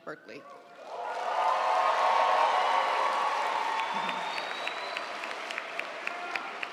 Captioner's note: audience applauding; audience cheering